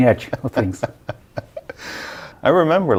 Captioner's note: laughing